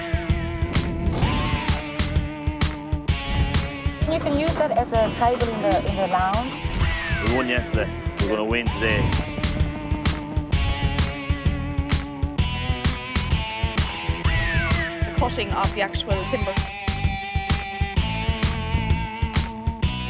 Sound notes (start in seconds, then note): 9.6 helicopter blades whirl; 10.4 lively music; 17.3 lively music